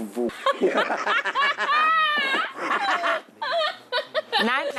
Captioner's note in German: Gelächter